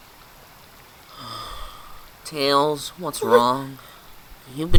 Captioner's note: sigh